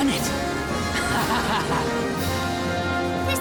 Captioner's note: laughs